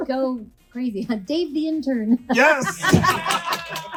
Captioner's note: laughs